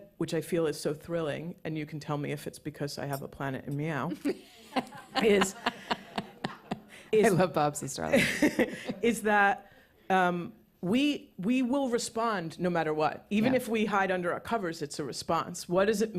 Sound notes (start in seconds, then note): 4.1 laughter